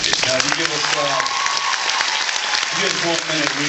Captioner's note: applauds